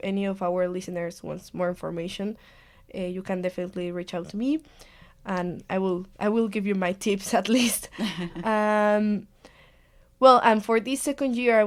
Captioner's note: laughs